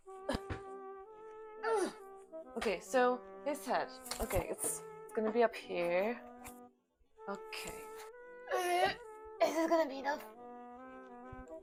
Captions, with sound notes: Uh Uhhhhh... Okay, so... This head. Okay, its... It's going to be up here... Okay! (ungodly, incoherent groans) Is it going to be enough?